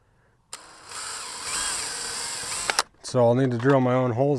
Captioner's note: drill whirling